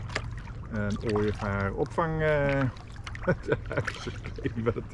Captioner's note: laughs